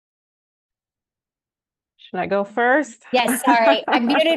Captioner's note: brief laughter